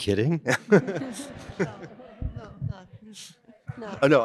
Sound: laughter

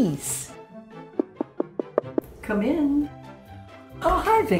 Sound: knock on door

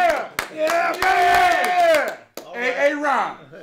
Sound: clapping & cheering

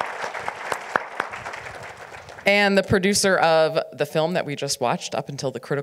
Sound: audience applauds

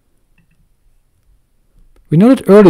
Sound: pause

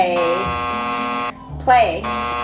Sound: buzzer buzzing

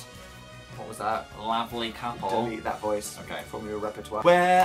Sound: weird voice; weird voice again; singing

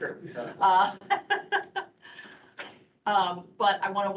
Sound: laughing

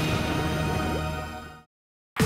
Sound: thunder crashes

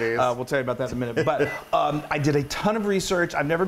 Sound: laugh

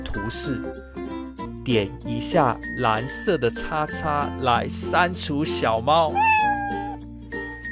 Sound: crying

